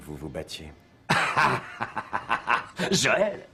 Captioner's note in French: Il ricane